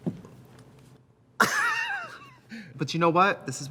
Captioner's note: Katya laughs